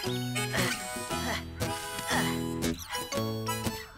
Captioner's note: Spud Panting